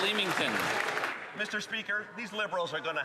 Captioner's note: some Applause